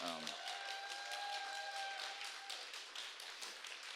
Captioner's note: applause, cheering